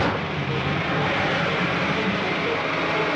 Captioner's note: hissing